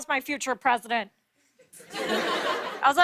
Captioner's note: laughter